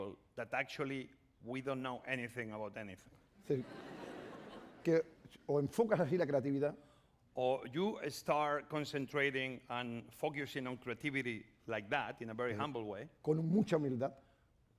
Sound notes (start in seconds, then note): 6.2 speaking spanish; 13.8 speaking spanish